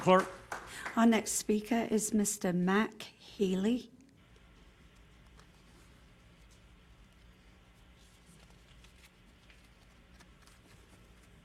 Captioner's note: applause